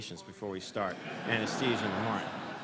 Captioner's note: laughter